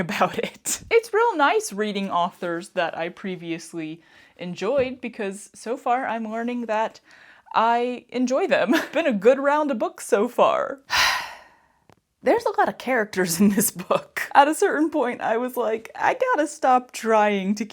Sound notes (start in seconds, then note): 10.9 sigh